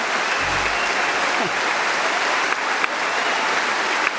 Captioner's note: applause